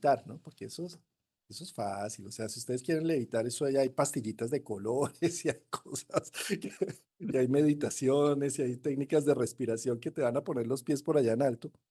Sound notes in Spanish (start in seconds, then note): 5.0 risas